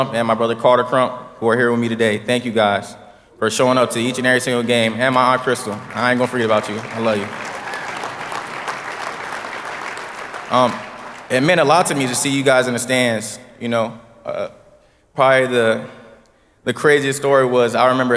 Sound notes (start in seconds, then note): 7.9 audience applauding